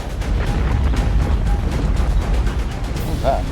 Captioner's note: earth rumbling